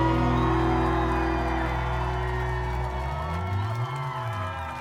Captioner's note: audience cheering